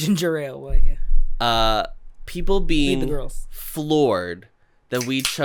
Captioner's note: quietly